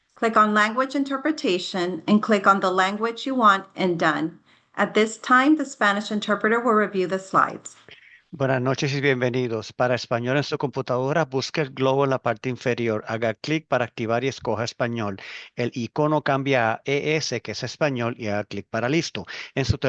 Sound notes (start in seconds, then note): 8.4 interpreter speaking in foreign language